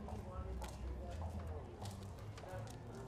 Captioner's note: indistinct chatter